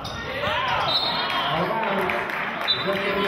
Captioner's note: whistling